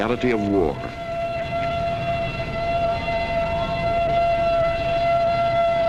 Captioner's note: alarm blaring